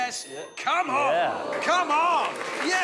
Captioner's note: audience gasps